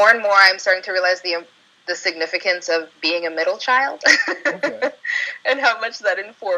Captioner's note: chuckle